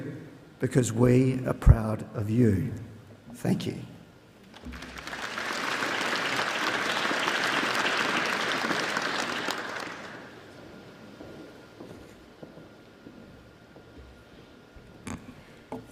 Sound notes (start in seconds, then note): 4.5 applause